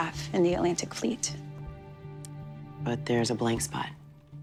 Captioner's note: none